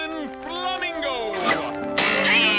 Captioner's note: arrow flying; cat yowling